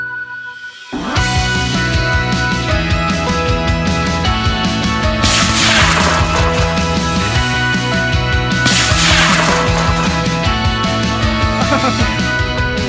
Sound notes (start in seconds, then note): 5.2 rocket blast